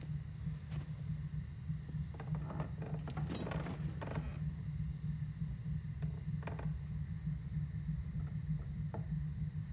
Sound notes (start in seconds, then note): 2.0 steps creaking